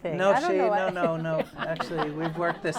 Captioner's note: laughter